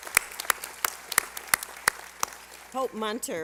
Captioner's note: applause